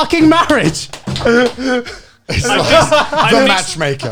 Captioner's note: all laughing